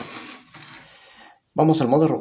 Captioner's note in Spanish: Silencio